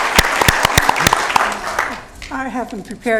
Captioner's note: applause